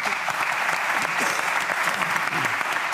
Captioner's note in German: Applaus